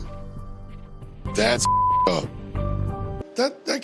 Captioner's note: beep